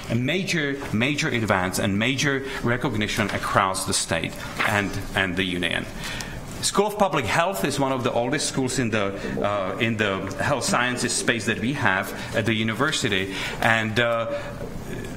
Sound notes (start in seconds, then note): none